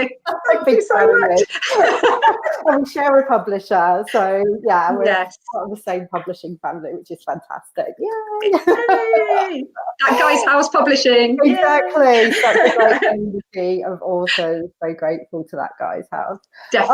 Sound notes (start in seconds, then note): 1.6 laughs